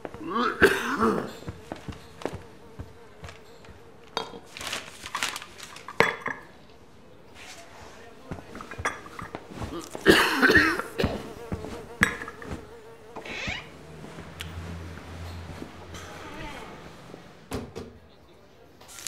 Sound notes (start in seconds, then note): 0.1 coughs; 9.6 coughs; 9.6 flies buzzing